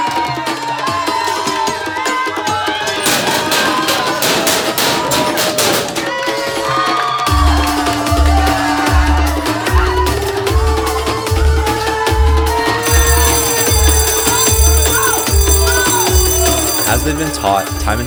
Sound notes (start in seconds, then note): 13.6 fire alarm